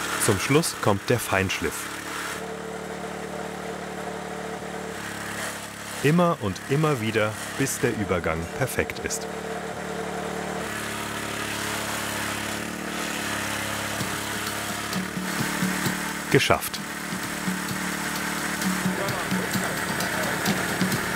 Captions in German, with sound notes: Zum Schluss kommt der Feinschliff. (Brummen) Immer und immer wieder, bis der Übergang perfekt ist. (Brummen) Geschafft. (Schwungvolle Musik)